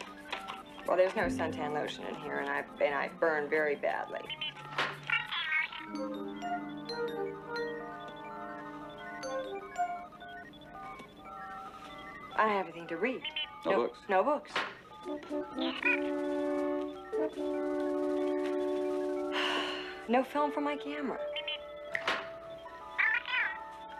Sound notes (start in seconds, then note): 19.3 sighs; 21.8 Steve Trevor snaps his Fingers